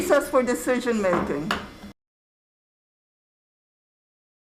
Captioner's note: gavel taps